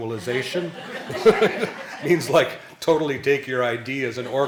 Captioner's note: laughing